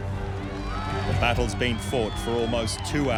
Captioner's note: crowd cheering